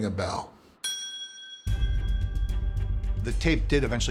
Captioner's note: bell dings